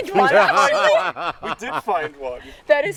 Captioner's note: all laughing